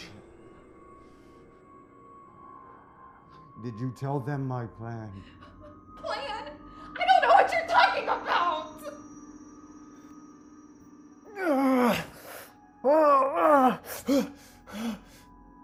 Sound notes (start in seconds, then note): 0.2 ghostly music; 11.3 Kenny screams; 12.9 eerie music